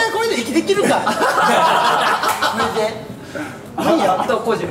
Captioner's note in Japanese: 笑い